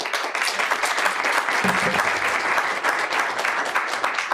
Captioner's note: applause